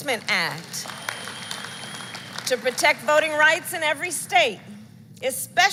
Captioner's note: applause